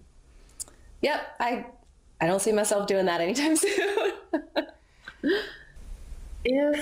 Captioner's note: laughs